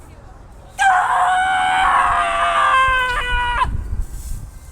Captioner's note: existential screech